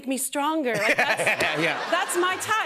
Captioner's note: laughter